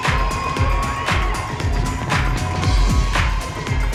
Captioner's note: audience cheering